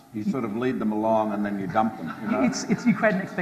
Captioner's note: audience laughs